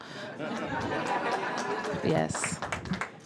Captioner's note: applause